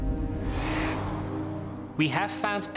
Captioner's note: burst